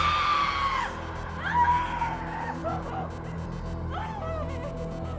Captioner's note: person screaming